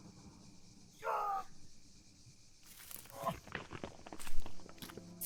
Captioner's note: struggling groans